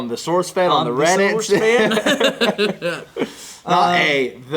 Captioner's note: hillbilly accent